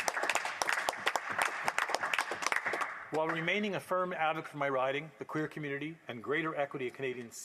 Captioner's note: applause